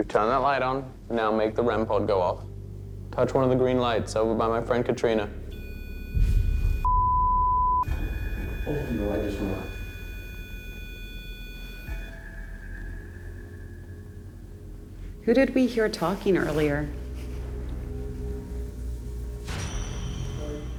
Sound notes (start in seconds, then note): 5.2 beeping; 9.7 ominous music; 17.2 ominous music